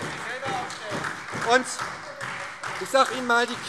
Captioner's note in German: Beifall SPD und Freie Demokraten